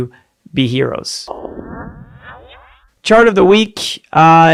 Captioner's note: laser firing